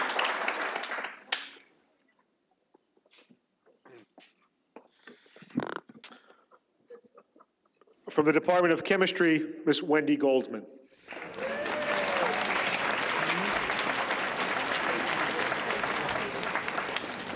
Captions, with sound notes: - For the Department of Chemistry, Miss Wendy Goldsman (audience applauds)